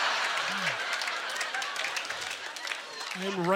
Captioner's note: audience laughter; scattered applause